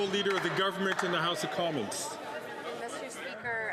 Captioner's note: applause